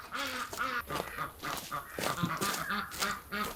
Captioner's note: ducks quacking